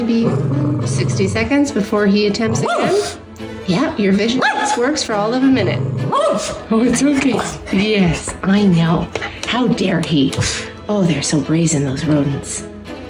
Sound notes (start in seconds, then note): 0.0 growl; 2.6 woof; 4.3 woof; 5.4 growl woof; 9.1 snuff